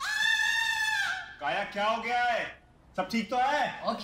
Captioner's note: Kaya screaming